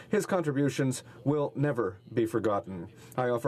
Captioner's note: speaking French